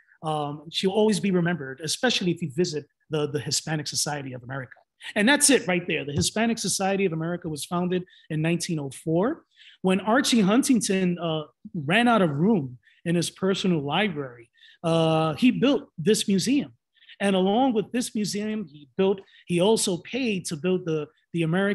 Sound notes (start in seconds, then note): none